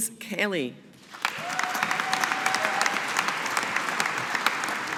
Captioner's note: audience applauding